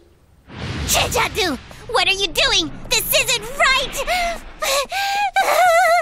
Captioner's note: Crying